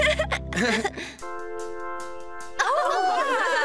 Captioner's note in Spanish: ambos riendo